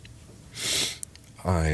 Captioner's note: sniffle